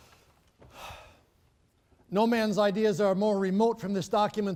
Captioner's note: sighing